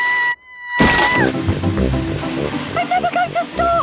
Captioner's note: screaming